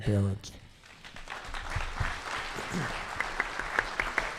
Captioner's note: clapping